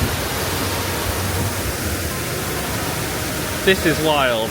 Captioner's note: water splashing